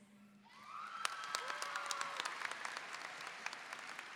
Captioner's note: audience applauding